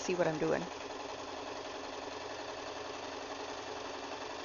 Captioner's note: machine humming along